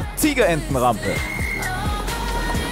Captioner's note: Pfiff